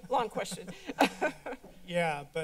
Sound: laughs

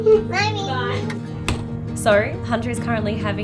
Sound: door closing

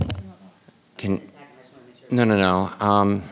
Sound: speaking muffled

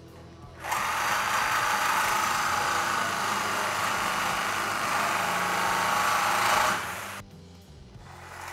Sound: drilling sound

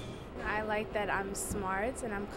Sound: voiceover

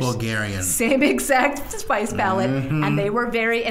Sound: laughing

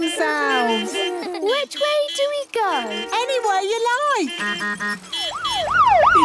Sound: laughter; honking, siren wailing

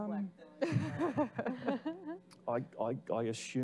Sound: laughing

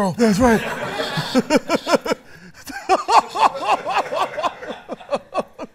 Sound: laughter

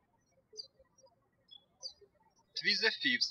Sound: birds chirping

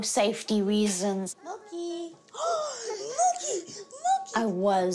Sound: gasps

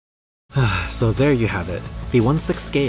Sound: sigh

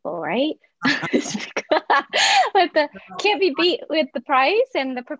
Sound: laughs

